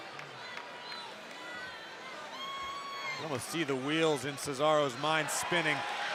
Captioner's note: applause